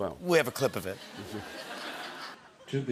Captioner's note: laughter